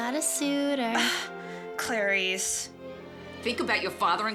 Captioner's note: groans